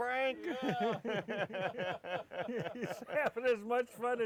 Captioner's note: laughing